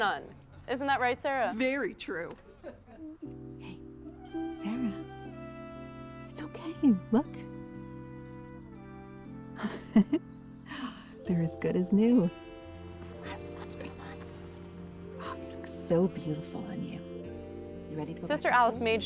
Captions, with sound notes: Even a nun. Isn't that right, Sarah? - Very true. - Hey, Sarah? It's okay. Look! (chuckling) They are as good as new. Let's put them on. Oh, look so beautiful on you. Ready to go back to school?